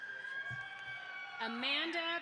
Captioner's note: audience applauds